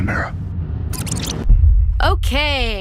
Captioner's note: tape rewinding